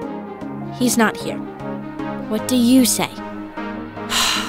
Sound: sighs

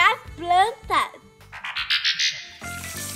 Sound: transition sound effect

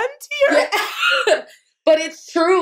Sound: laughter

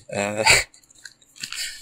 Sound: laugh; rustling

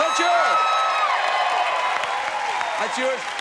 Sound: cheers and applause

